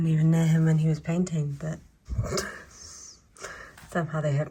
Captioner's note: laughs